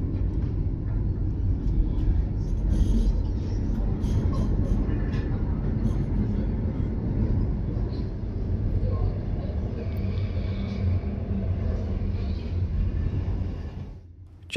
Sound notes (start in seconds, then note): 0.0 train Noise